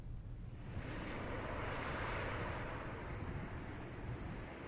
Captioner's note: distant waves crash